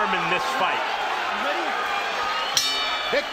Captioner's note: bell dings